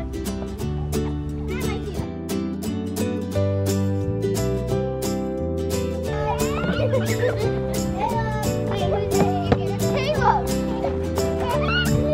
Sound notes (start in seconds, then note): 0.3 playful music; 5.8 children playing